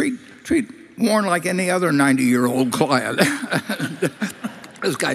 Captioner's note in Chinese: Laughter; 笑聲